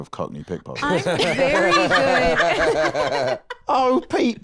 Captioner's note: others laughing